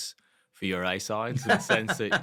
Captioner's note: laugh